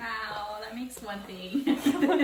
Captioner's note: both laughing